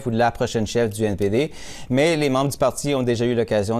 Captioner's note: speaking French